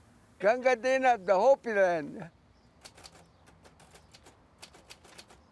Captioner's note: typewriter clicking